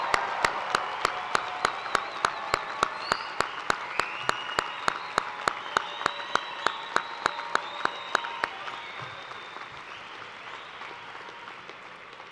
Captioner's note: cheers and applause